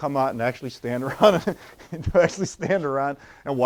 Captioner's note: laughs